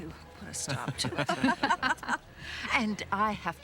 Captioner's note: laughter